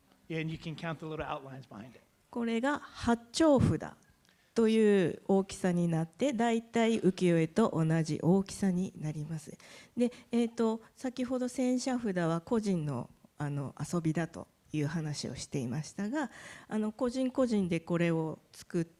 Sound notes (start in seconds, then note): 2.2 speaking japanese